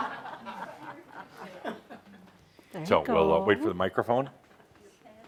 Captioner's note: laughter